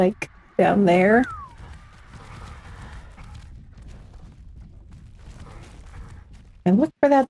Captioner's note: whistle